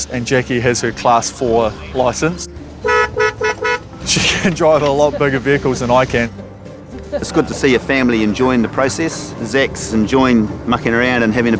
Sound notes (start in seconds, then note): 2.6 honking